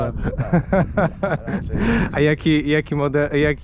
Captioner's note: laughter